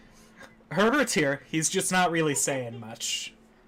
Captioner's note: snickering